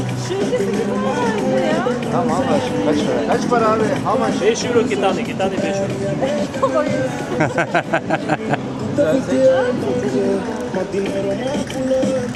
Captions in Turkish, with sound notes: Kaç para? Kaç para abi? 5 euro. iki tane 5 euro [kahkaha]